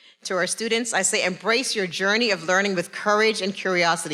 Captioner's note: none